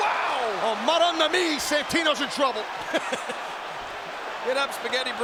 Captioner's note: laughs